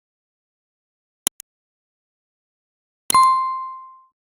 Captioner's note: keyboard clicking